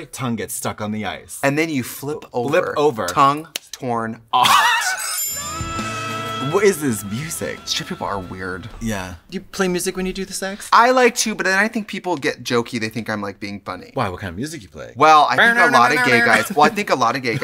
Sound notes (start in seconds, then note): 4.3 Katya laughs; 4.5 gentle music; 15.6 banjo music